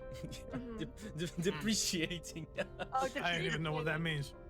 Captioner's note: laughs